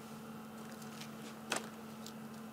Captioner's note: whirring in the background